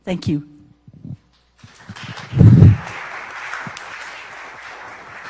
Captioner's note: audience applauding